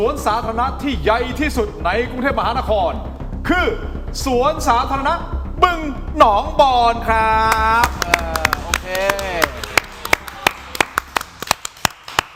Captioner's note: applause